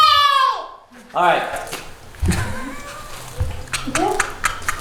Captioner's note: laughing